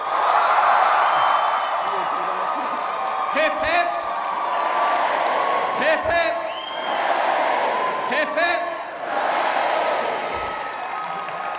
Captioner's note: applause and cheering